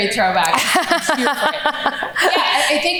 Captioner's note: laughs